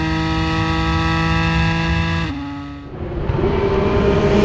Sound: car engine

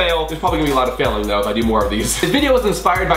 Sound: chuckles

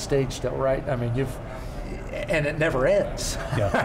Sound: laughs

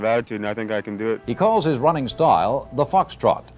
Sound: none

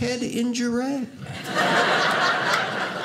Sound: audience laughing

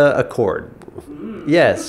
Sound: laughs

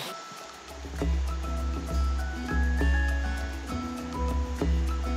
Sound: clean and cool water flows

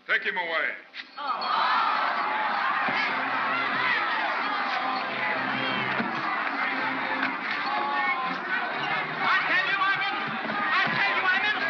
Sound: crowd jeering

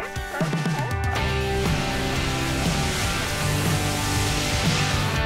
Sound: waves crashing

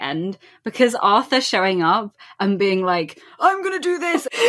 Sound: old-man voice

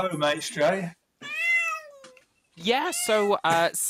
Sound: meowing

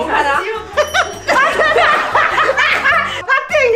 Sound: merciless laugh

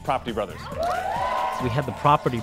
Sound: cheers

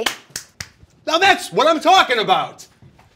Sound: snaps fingers

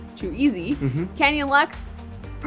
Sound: hums agreeingly

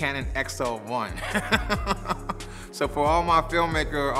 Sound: laughs

